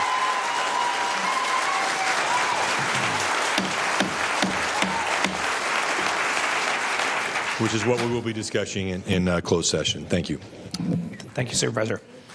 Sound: cheers and applause

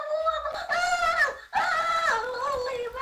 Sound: screams

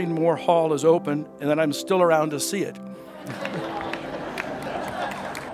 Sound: laughs

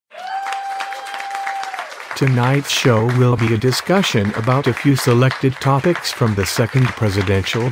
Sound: audience cheering with clapping and wooo's

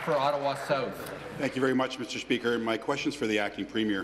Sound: applause

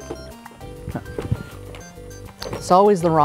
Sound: boxes rattling

